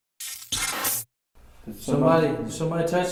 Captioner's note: buzzing